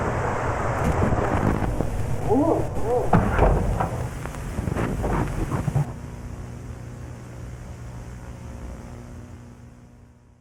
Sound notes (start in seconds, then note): 2.0 distant clattering; 2.4 static hissing